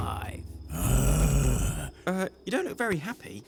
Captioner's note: growl